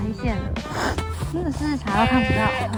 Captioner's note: so cold that I keep sniffing